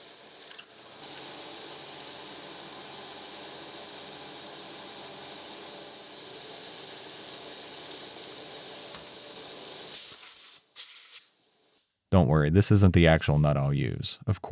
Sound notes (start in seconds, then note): 0.2 machine whirring; 7.1 air blowing